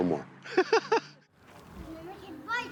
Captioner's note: laughing